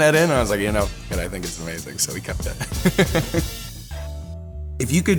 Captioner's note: laughs; piano music